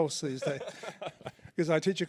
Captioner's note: laughs